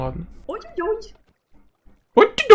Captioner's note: Tiny Agnes slurred